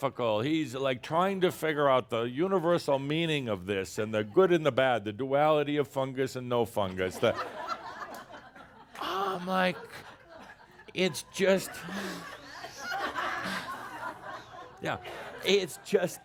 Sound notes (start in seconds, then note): 7.9 more laughter